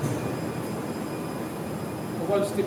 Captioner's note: factory Background Noise